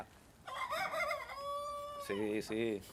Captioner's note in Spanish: El gallo cacarea bajito